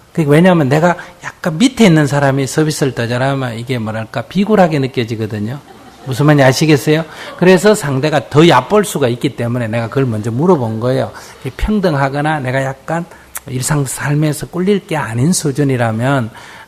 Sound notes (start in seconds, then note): 5.4 audience Laughter